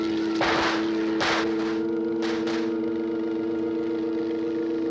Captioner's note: gunfire